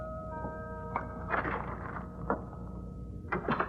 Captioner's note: door opening